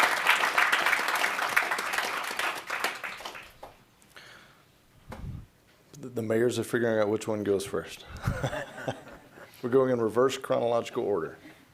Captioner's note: applause